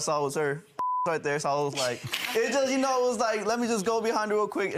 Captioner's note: beep